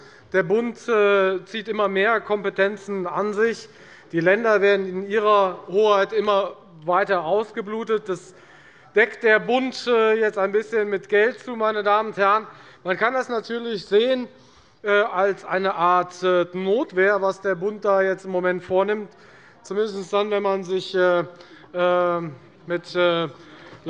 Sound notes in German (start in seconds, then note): none